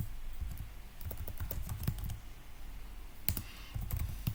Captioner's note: typing noise